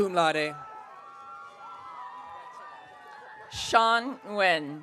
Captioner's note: audience cheering